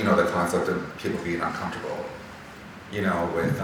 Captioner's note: none